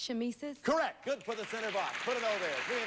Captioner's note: audience applauding